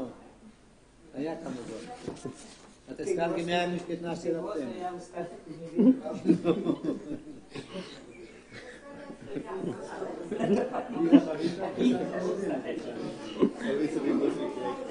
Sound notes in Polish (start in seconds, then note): 10.8 śmiech, gwar